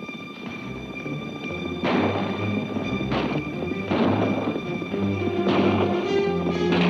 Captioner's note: hooves clomp; guns bang